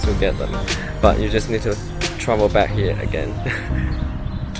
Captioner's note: laugh